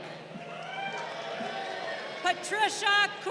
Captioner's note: crowd cheering